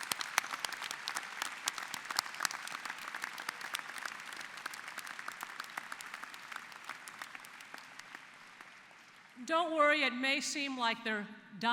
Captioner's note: applause